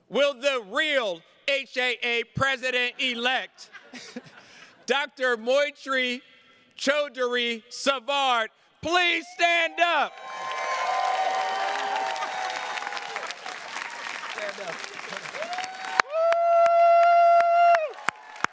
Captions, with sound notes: Will the real HAA president elect, (attendees laughing) Dr. Moitri Chowdhury Savard, please stand up! (attendees cheers and claps)